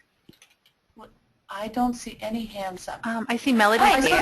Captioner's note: voiceover